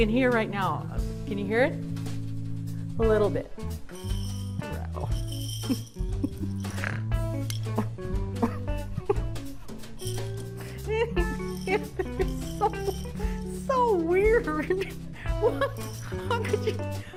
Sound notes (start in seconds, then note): 3.8 jingling; 6.7 laughing